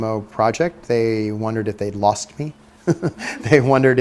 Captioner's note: laughs